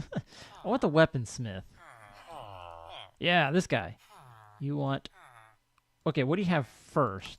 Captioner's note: chattering continues